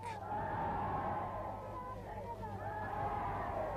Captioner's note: crowd cheers